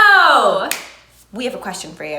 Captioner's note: claps